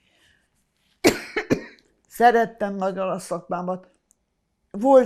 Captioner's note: coughing